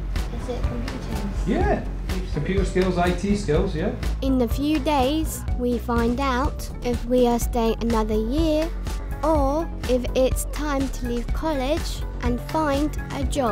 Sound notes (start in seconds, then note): none